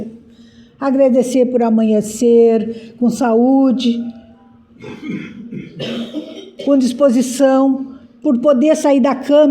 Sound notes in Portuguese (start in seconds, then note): 4.8 limpando a garganta; 4.8 tosse